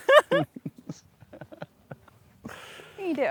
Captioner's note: laughs